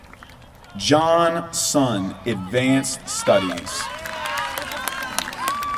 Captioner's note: applause